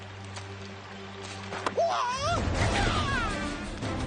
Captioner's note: man shouts; twig snaps